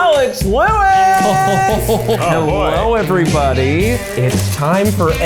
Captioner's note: laughing